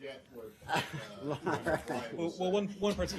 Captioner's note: laughter